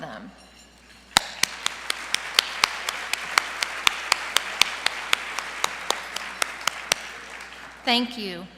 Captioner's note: applause